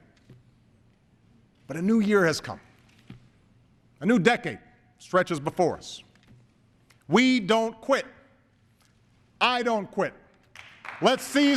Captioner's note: applause